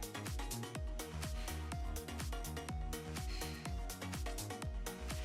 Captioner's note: upbeat lively music; exhaling deeply